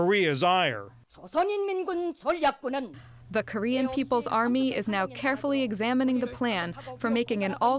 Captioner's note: through translator